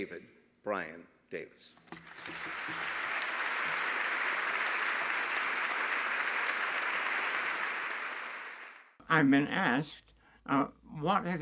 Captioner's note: applause